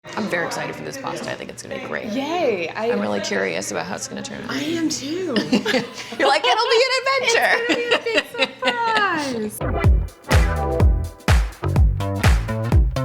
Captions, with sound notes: - I'm very excited for this pasta. I think it's gonna be great. - Yay! - I'm really curious about how it's gonna turn out. - I am, too! (laughing) - You're like, it'll be an adventure! - It's gonna be a big surprise! (upbeat funky music)